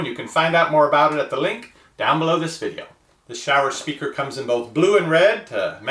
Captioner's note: none